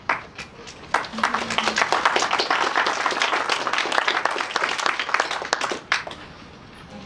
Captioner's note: audience applause